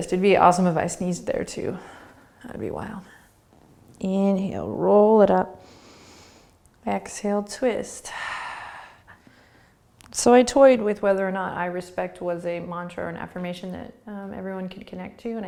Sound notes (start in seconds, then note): 5.6 inhaling; 8.0 exhaling